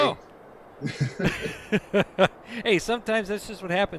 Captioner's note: laughs